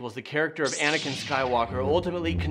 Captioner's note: lightsaber whooshing